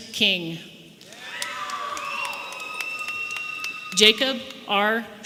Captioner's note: audience applauding and cheering